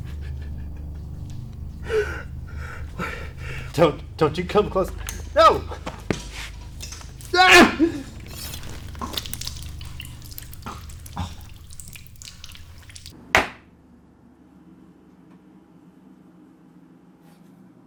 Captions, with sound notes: Don't, don't you come close. No! (groaning) (gasping) (thwacking)